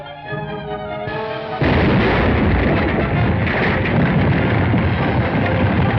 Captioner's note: explosion